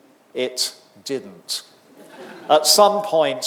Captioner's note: audience laughing